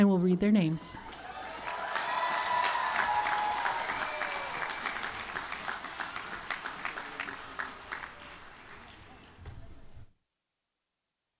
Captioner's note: applause